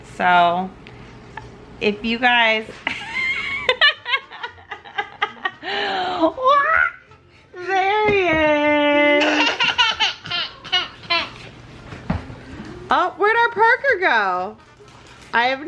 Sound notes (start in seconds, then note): 2.8 laughter; 9.2 child laughter